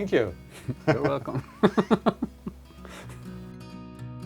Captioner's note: laugh